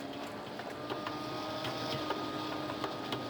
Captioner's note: mixer whirs